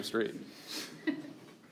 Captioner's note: giggling